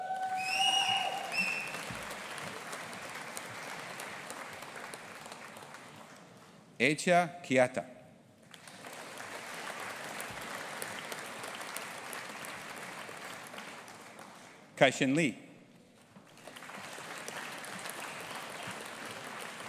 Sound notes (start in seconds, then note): 0.0 audience applauding and cheering; 8.5 audience applauding; 16.2 audience applauding